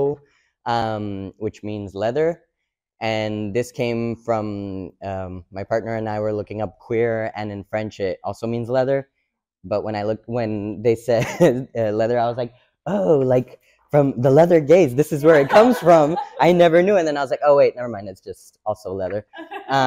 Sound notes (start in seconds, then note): 15.2 audience laughs; 19.6 audience member laughs